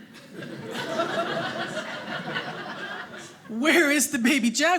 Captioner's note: audience laughing